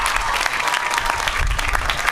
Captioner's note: applause